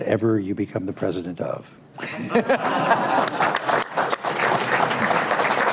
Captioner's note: laughter, applause